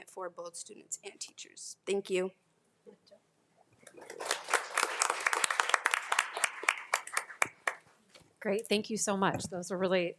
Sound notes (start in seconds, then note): 3.8 everyone applauding